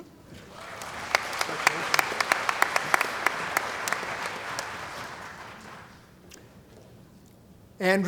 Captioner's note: applause